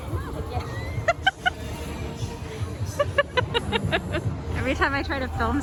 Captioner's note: laughs